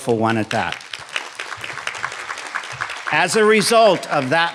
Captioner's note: audience applauding